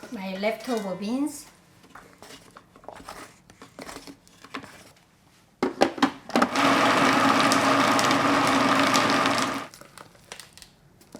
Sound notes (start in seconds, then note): 6.4 food processor whirs